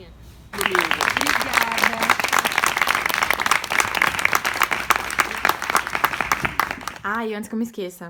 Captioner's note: applause